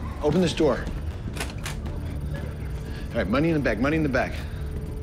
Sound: door unlocks

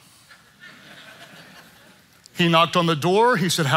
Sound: congregants laughing

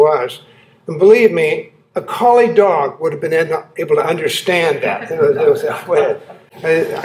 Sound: laughter

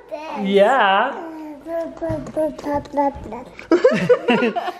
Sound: baby murmuring; laughing

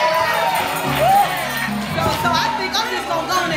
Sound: congregation cheers

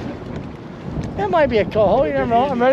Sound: water lapping; wind

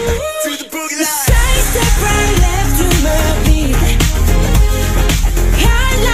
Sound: heartbeat

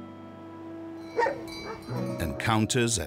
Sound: dogs barking

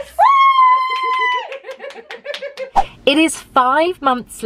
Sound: cheers

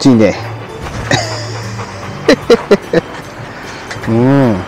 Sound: laughs

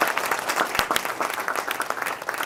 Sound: applause

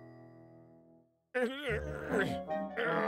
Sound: groaning

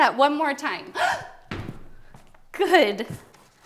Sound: gasps

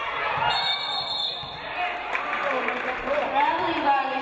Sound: referee blows whistle

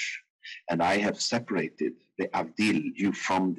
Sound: speaking in foreign language

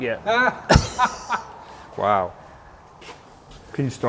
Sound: laughs

